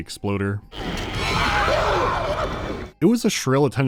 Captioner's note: shrill cries